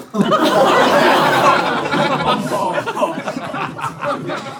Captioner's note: people in room laughing